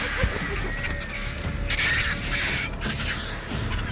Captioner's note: squawking